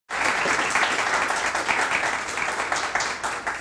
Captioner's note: hands clapping